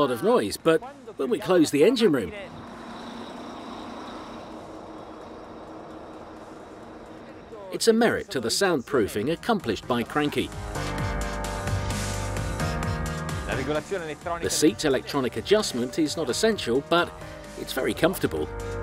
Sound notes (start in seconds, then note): 4.0 engine whirring; 12.1 upbeat music